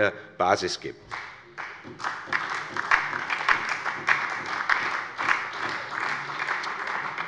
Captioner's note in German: Beifall bei Abgeordneten der SPD und der LINKEN